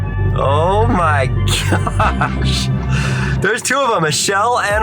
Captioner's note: chuckles